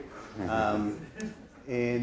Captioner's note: audience laughs